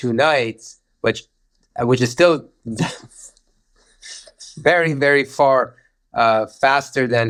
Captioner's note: chuckling